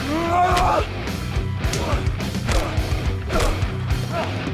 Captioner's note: both moaning; dramatic music